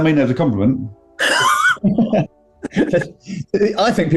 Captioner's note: laughter